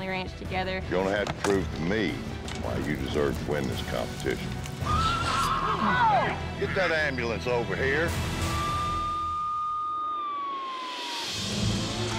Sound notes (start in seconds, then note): 5.8 horse neighs; 8.4 sirens sounding